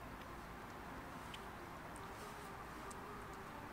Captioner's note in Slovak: mľaskanie